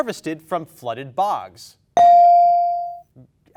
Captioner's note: bell dings